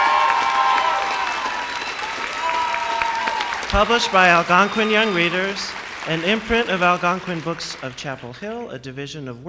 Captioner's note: applause